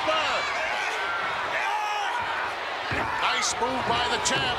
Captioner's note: Flair shouts